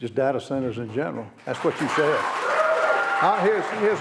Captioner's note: applause